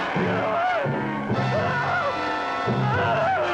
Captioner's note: screams